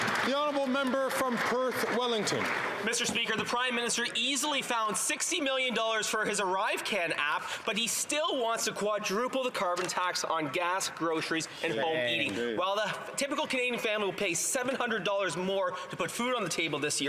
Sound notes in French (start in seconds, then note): 6.9 voix de l'interprète